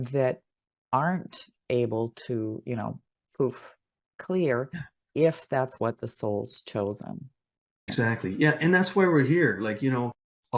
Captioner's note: poof